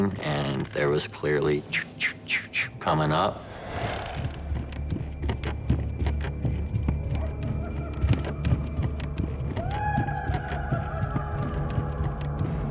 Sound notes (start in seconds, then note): 4.2 footsteps running up stairs; 7.5 maniacal laughter